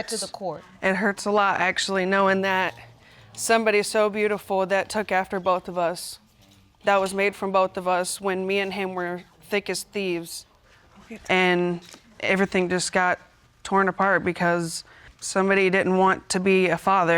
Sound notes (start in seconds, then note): none